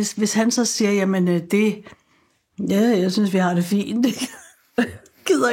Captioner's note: chuckles